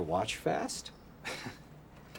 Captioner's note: laughs